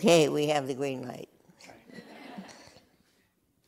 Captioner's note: laughter